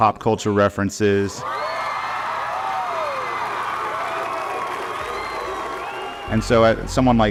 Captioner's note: crowd cheering; crowd whooping